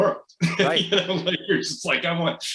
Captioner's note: laughs